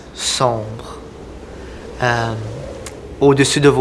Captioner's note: strong wind